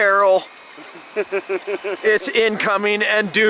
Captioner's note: laughing